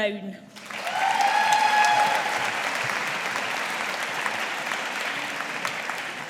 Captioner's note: audience applauding